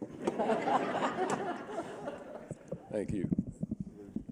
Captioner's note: laughter